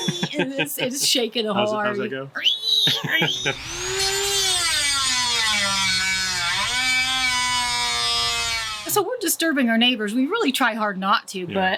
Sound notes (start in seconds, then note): 3.1 makes drilling noise; 3.2 loud drilling